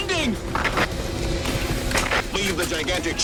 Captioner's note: walkie-talkie feedbacks